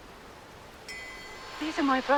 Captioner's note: bell chiming